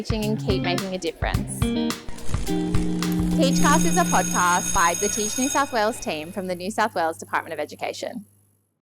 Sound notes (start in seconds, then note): 2.1 electricity crackles